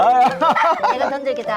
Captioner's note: both laughing